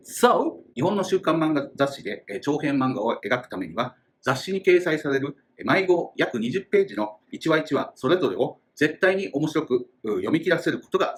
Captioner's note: speaking Japanese